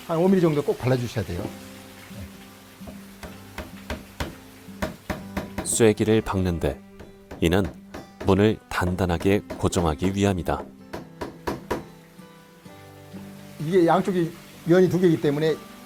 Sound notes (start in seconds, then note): 2.8 hammering sound